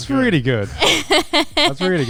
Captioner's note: laughing